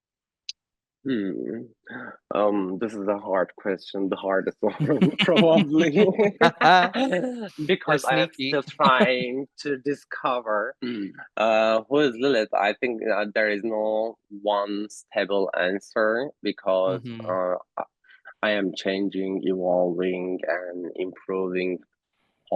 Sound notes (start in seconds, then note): 4.5 laughter